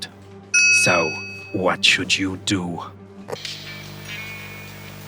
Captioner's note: corporate ding